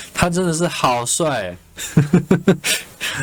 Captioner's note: laughs